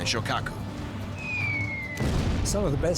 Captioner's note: bomb whistling; explosion